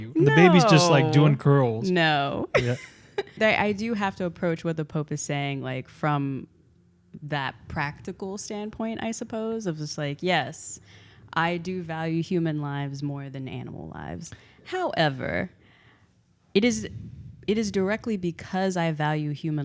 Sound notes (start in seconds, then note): 2.5 laughs